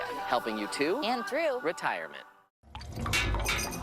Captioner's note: drip. Drip